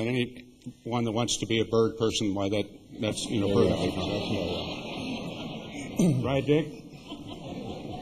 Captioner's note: laughter